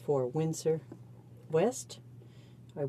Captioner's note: speaking French